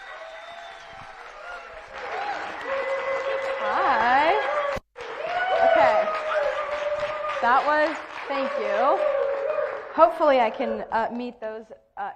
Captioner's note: cheering and applauding